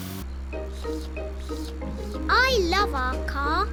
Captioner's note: slurping